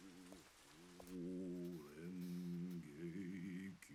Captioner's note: chanting